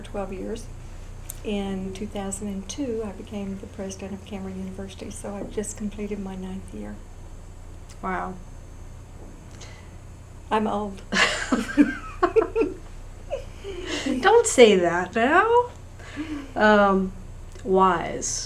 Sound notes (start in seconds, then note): 11.1 laughter